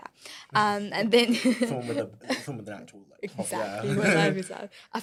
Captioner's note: laughter